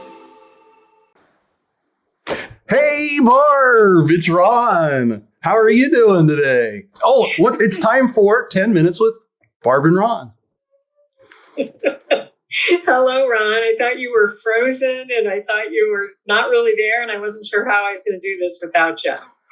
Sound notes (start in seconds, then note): 6.9 laughs; 11.4 laughs